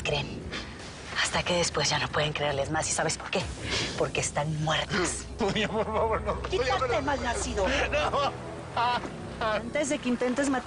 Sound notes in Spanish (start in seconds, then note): 7.1 Quejidos